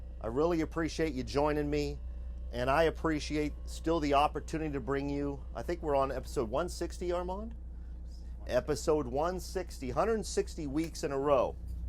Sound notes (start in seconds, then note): 7.6 murmurs